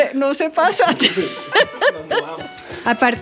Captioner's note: laughs